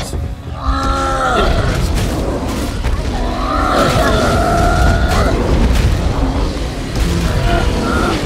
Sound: bears roaring

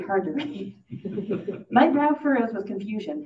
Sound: audience laughing

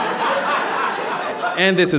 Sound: audience laughing

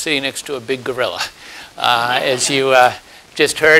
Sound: laugh

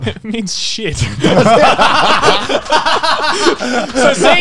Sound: everyone laughs

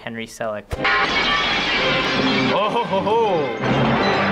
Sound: glass shattering

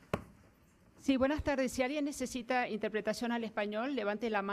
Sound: foreign language

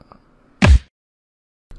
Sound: thump

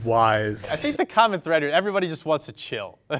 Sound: laughs

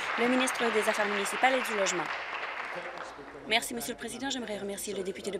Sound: applause

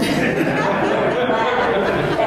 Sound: laughter

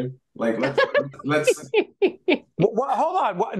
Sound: laughing

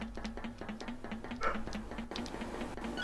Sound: woof

